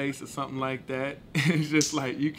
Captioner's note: laughing